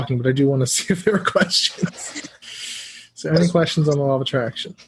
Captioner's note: laugh